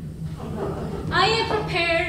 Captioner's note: audience lightly laughing